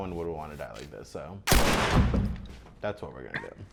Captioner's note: gun firing